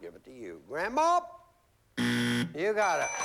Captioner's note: buzzer